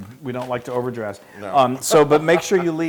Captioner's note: laugh